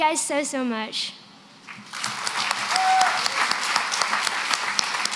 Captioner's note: applause